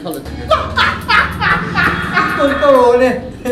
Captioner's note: alien laughing audible